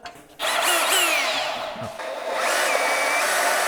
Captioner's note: saw revving; saw cutting